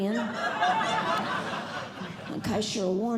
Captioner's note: audience Laughing